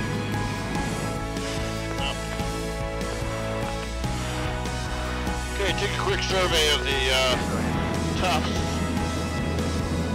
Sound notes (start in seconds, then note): 0.0 cockpit ambiance